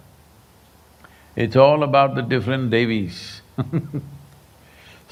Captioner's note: laughs